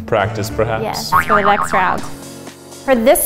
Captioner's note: boing